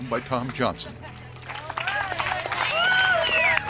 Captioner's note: applause